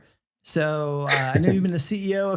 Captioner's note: chuckles